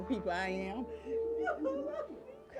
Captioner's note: sobbing